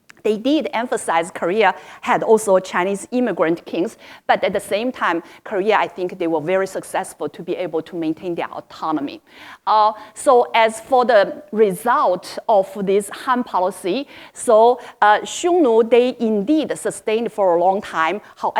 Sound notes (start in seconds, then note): none